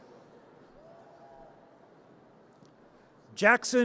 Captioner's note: audience cheers